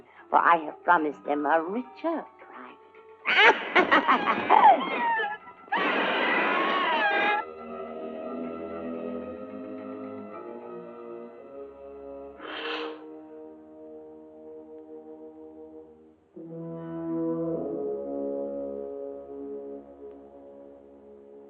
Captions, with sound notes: For I have promised them a richer prize. - [evil laughter] - [bird screeching] [ominous music]